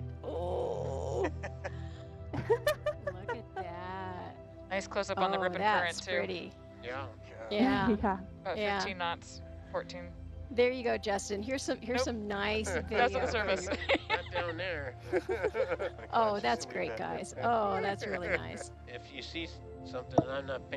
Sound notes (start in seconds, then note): 2.3 group laughs in excitement; 12.6 laughs